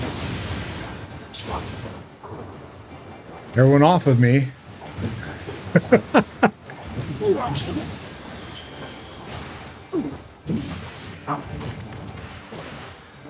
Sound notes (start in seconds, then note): 5.6 laughs